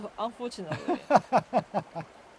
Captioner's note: laughs